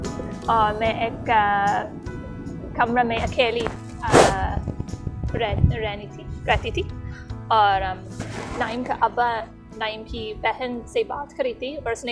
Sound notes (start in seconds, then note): none